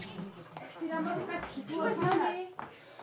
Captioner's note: background chatter